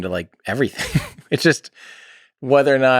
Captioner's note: Tim laughs